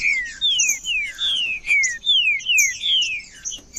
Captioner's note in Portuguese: trinca ferro cantando